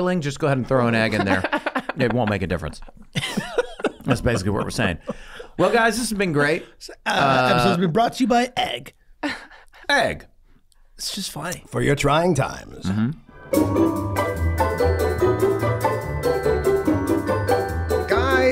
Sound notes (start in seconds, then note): 1.0 everyone laughing